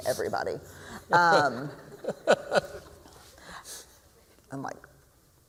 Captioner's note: laughs